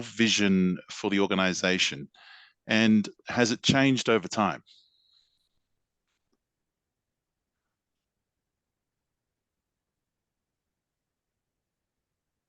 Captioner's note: long pause